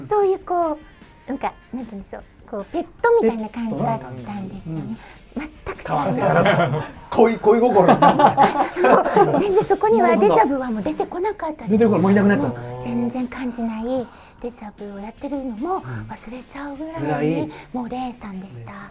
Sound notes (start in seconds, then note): 8.6 laughs